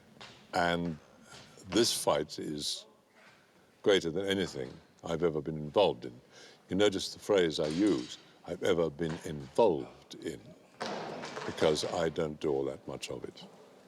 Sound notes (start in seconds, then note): none